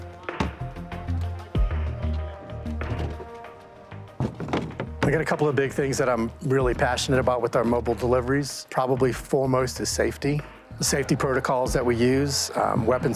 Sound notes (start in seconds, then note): 1.3 boxes move